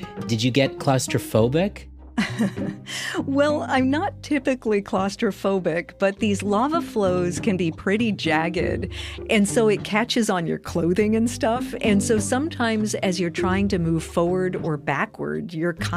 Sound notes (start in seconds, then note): 2.2 laughs